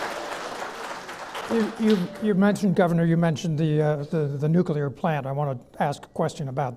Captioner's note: clapping